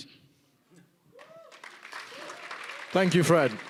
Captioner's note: applause